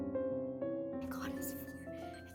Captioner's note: whispering